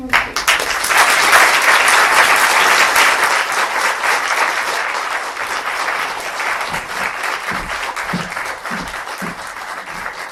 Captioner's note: applause